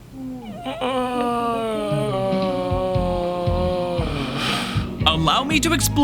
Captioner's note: sounds of pain